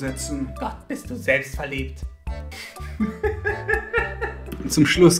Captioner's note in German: hysterisches Lachen